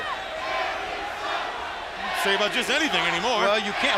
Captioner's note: crowd cheering